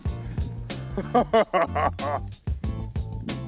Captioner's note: sinister chuckle